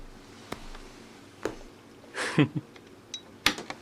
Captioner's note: Lucifer takes the record and chuckles